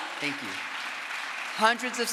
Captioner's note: crowd applause